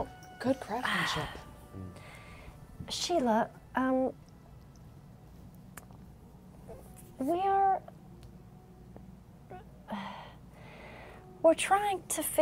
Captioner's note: sighs